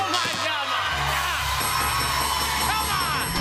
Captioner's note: buzzer; bell dinging